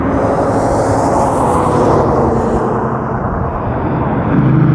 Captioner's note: traffic whooshing